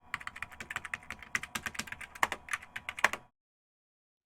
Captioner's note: keyboard keys clacking